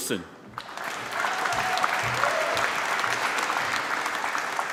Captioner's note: applause